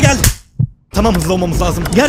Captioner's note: slap